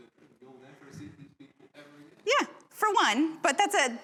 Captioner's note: audience speaking